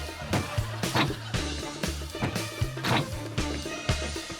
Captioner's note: muffled clatter